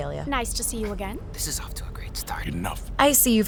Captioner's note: whispering